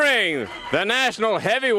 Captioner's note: crowd cheering; bell ringing